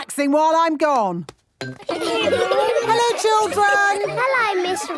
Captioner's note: laughter